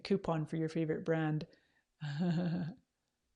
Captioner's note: laughs